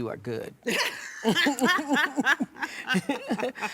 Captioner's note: laughter